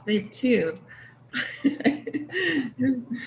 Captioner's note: laugh